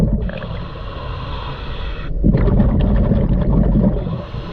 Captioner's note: breaths gurgling